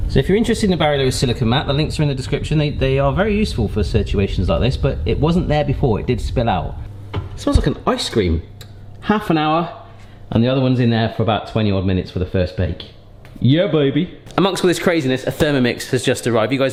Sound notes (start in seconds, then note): none